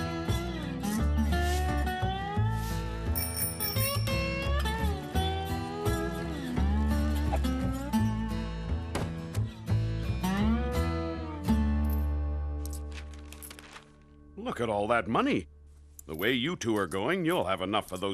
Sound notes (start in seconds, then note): 3.1 bicycle bell ringing